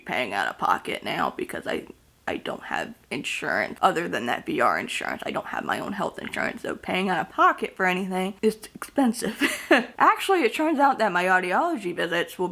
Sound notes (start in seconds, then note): 9.3 laughing